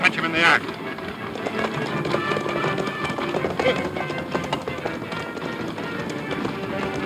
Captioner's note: horse hooves pounding; dramatic music